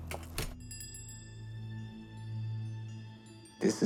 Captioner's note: bell dings